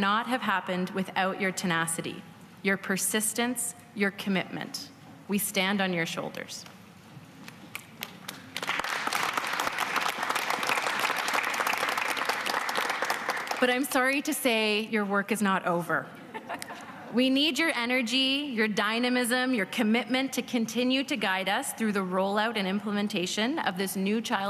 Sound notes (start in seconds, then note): 14.6 applause